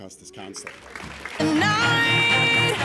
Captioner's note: applause